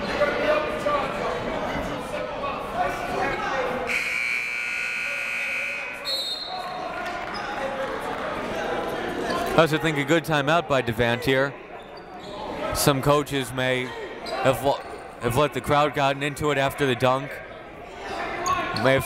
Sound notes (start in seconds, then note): 3.9 buzzer; 6.5 whistle